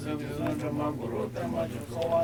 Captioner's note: chanting